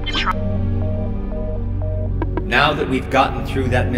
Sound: animated voice

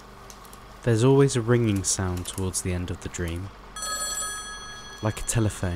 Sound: telephone Bell Rings

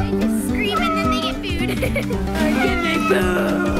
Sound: laughs

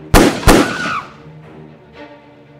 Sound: screams

